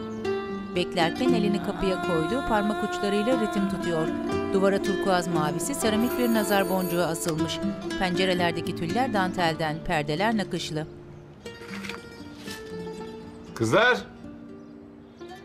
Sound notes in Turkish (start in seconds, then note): 0.3 Müzik - Duygusal; 5.8 Kapı zil sesi; 7.5 Müzik - Duygusal